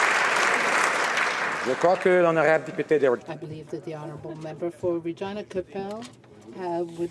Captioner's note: some Applause